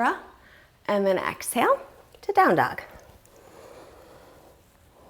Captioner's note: deep breathing sounds